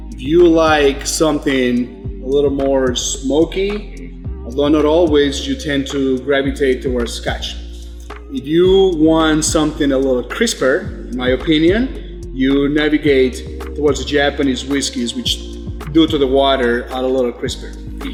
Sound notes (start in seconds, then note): 4.3 foreign language